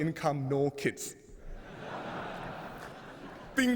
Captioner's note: 笑声